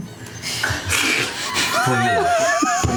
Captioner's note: laughter